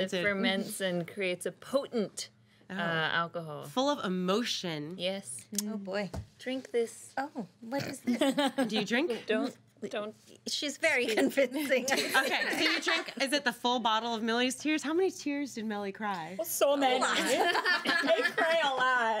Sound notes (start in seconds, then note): 8.0 girl laughs; 13.3 girls laughing